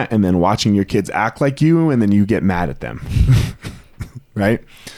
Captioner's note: laughs